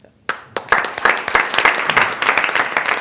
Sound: applause

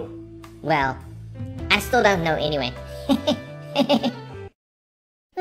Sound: chuckle

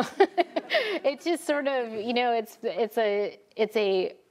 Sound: laughs

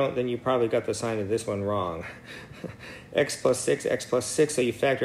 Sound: laugh

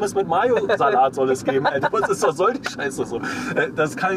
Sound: laughs

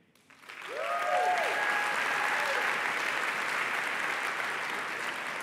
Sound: applause and cheering

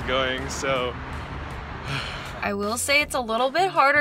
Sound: sighs

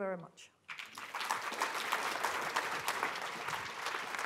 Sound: applause

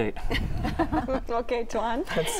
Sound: laughter

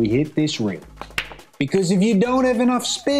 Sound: balls clanging

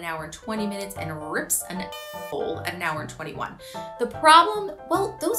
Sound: air horn honks

